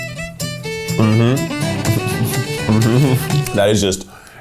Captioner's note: lively music; laughs